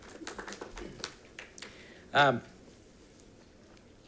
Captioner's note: audience applauding